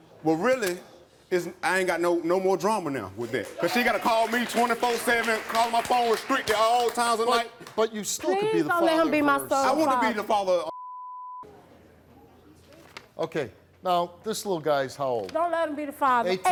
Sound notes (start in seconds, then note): 10.7 beep